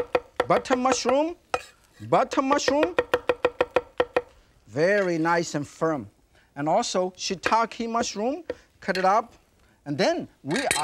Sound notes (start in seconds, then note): 3.3 knife thudding; 8.1 knife thudding; 10.5 knife clinks